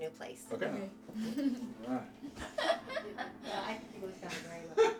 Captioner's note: laughing